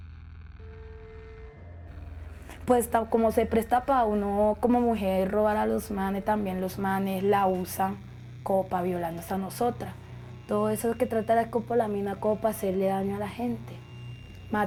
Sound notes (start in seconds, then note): 2.9 speaking foreign language